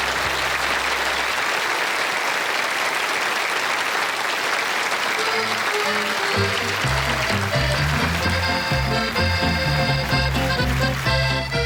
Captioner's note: applause